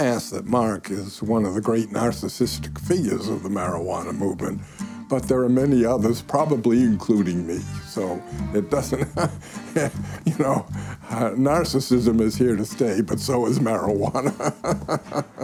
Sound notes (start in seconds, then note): 8.1 chuckling